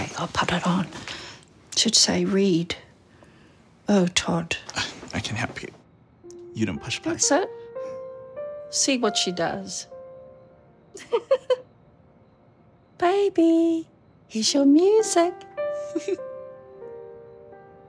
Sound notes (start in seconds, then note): 11.0 mum laughs